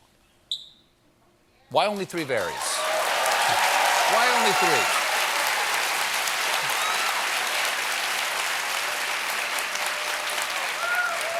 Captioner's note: applause